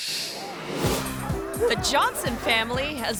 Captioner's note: upbeat bright music; dog barking